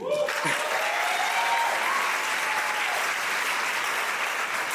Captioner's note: audience applauding